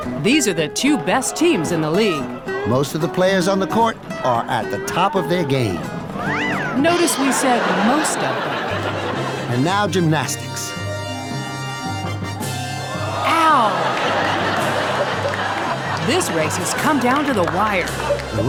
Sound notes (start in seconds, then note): 0.0 audience laughing; 13.0 audience laughing